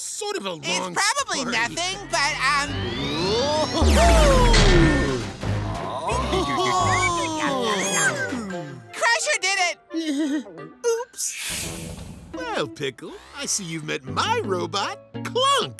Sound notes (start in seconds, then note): 10.0 laughs nervously